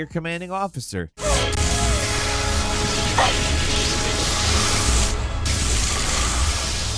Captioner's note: Samus grunting